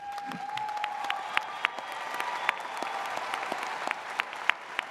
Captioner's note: audience cheers